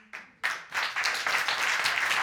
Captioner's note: audience applauds